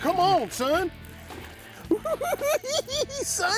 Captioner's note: cackling